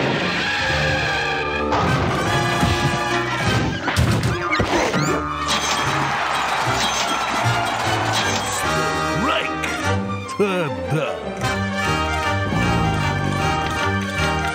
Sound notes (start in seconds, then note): 5.6 bells; 5.7 audience cheers